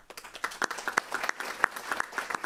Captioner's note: applause